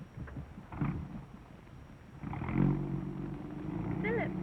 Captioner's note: engine roaring